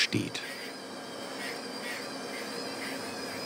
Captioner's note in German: Maschinengeräusche, Piepen